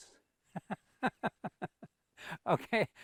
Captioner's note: chuckles